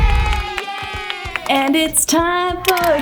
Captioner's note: crowd; clapping